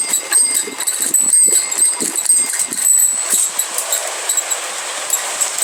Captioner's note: rings her bell in the distance